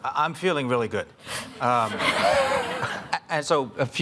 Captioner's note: audience laughing